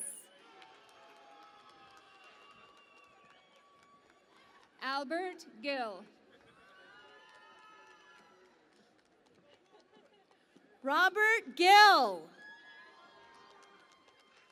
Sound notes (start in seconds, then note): 0.5 cheering and Applause; 7.1 cheering and Applause; 14.2 cheering and Applause